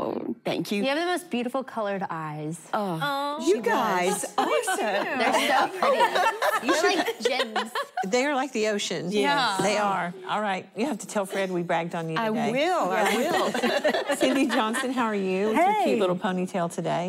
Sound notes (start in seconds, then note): 13.0 laughter